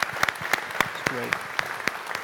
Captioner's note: applause